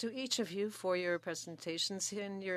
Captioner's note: speaking French